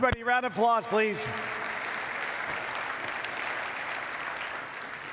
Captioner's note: audience applauds